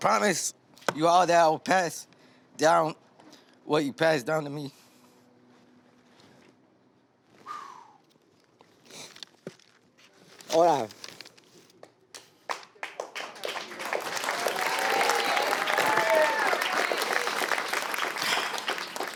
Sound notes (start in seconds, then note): 7.4 sighs; 12.1 applause